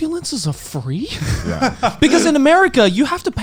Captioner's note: laughing